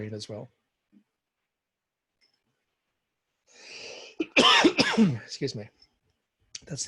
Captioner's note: coughs